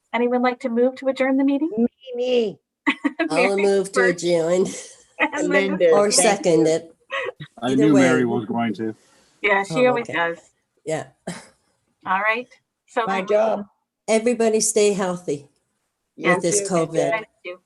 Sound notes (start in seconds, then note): 5.2 laughing